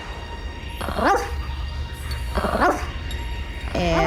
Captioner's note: barking